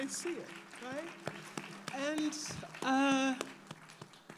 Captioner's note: all applaud